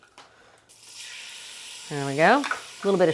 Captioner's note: mixture sizzling